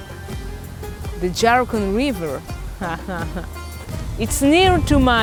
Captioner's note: chuckles